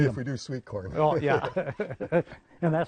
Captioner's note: laughter